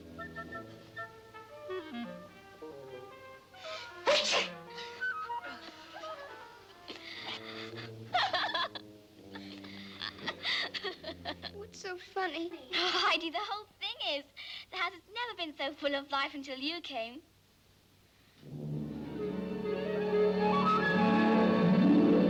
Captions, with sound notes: (Richard sneezing) (Klara laughing) - What's so funny? - Heidi, the whole thing is. The house has never been so full of life until you came. (light orchestral music)